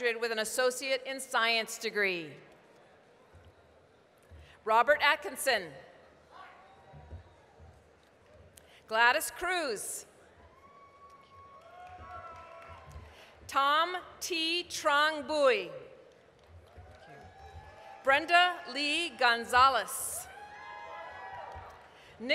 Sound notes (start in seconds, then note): 7.5 applause; 10.4 applause, cheering; 15.9 applause, cheering; 20.2 applause, cheering